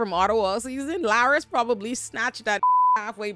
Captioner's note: beep